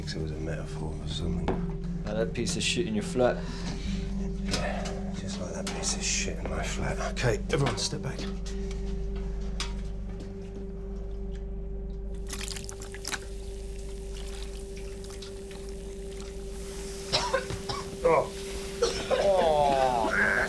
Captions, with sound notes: IT WAS A METAPHOR... FOR SOMETHING. LIKE THAT PIECE OF SHIT IN YOUR FLAT? YEAH. JUST LIKE THAT PIECE OF SHIT IN MY FLAT. OKAY, EVERYONE, STEP BACK. [FIZZING AND HISSING] [COUGHING]